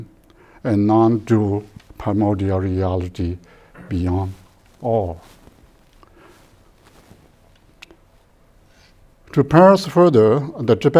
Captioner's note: pause